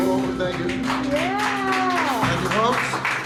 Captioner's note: audience cheers and applauds